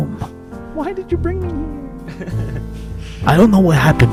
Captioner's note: laughs